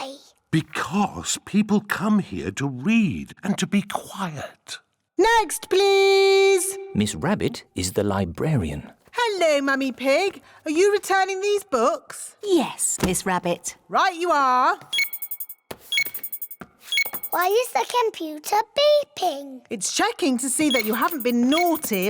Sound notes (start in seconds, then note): 14.9 beeping